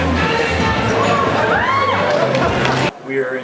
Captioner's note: whooping and clapping